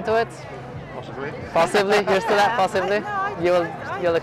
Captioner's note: laughs